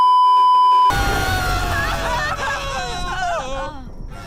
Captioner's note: meme music intensifies; Adora, Swift Wind, and Bow screaming